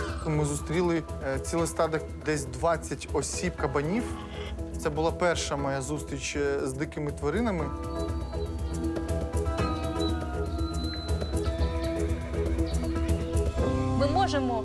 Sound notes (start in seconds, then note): 7.6 music intensifies; 11.1 horses neighing